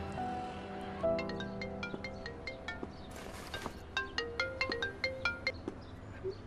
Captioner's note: mobile ringing